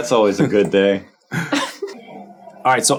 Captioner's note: chuckling